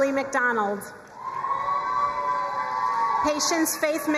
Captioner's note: crowd cheering and applauding